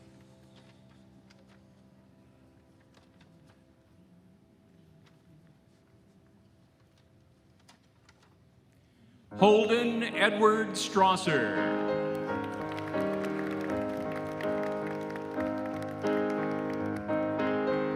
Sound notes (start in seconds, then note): 1.7 cheering and applause